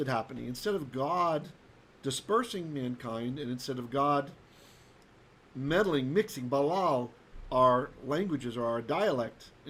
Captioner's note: Hebrew